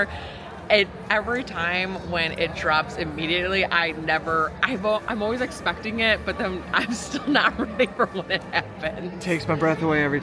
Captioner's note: laughs